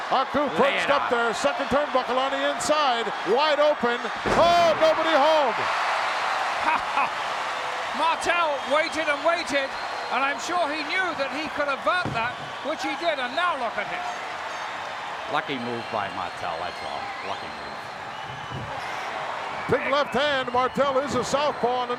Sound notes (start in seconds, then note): 5.4 audience cheering; 6.6 chuckling